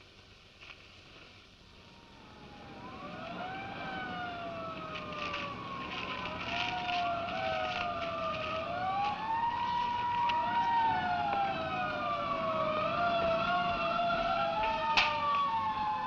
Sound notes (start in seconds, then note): 4.8 sirens wailing